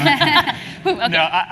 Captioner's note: laugh